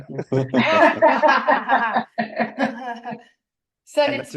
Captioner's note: laughter